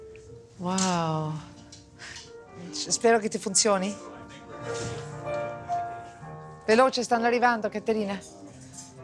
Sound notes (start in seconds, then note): 2.8 speaks in Italian; 6.5 speaks in Italian